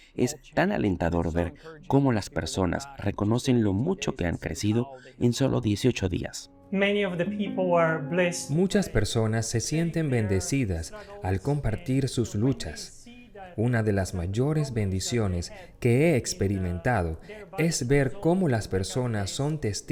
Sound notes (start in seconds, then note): 6.6 Hablando idioma extranjero